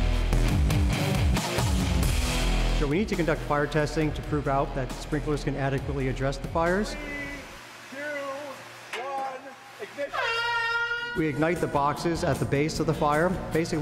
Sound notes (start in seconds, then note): 10.1 airhorn roars